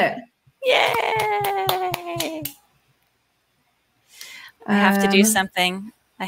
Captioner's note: clapping